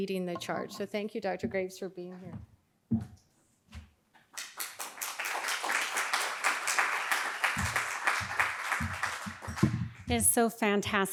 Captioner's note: applause